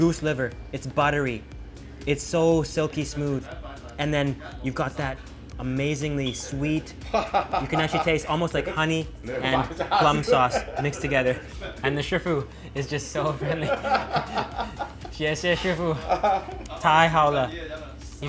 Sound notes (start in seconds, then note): 13.2 laughter